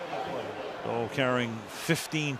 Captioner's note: pa announcement